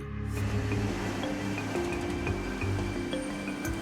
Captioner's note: breaking waves